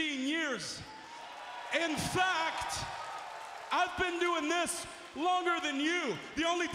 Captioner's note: applause